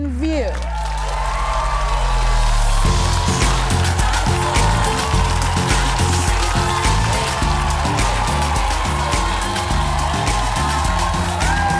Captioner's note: cheers and applause